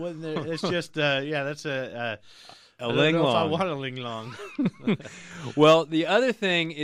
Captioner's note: laughs